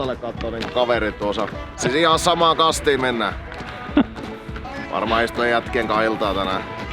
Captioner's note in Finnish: naurahtaa